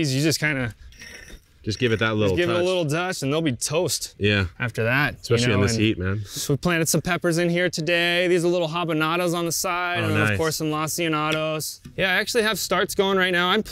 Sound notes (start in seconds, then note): none